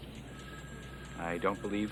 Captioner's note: phone ringing